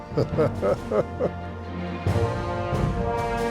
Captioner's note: chuckles